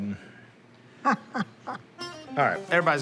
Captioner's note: laughs